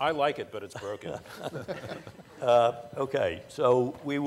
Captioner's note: laughter